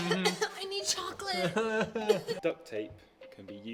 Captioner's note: fake coughs